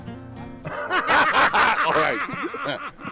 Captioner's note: laughing